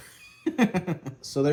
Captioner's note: laughing